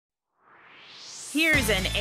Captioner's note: swoosh